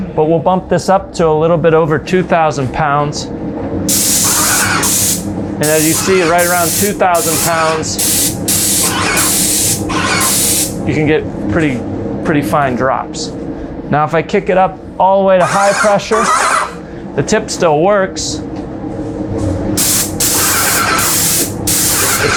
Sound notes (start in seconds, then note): 3.9 spray gun hissing; 3.9 sprayer whirring; 8.1 spray gun hissing; 8.1 sprayer whirring; 19.8 spray gun hissing; 19.8 sprayer whirring